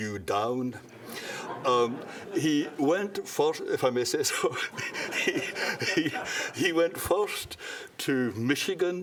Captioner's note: laughter